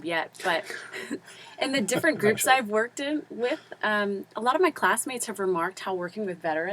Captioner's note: laugh